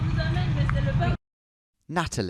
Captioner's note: driver speaking French